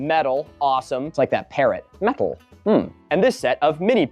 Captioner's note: silly voice